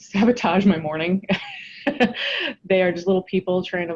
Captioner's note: laughs